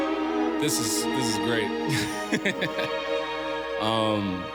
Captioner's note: laughs